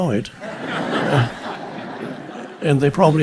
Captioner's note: audience laughing